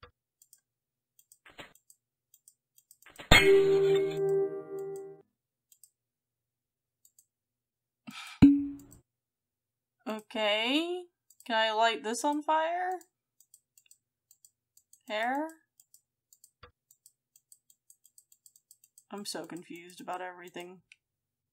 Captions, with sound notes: [Glass Shatters] Okay? Can I light this on fire? Hair? I'm so confused about everything.